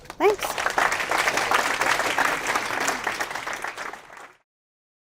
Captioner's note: audience applauding